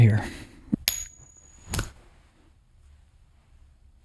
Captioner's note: coin flip